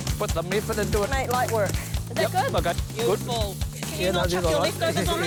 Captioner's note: chuckles